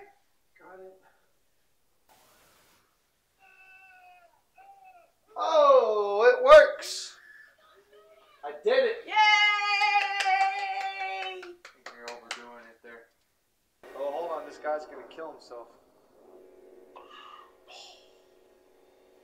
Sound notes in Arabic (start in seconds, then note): 2.0 ضوضاء التلفزيون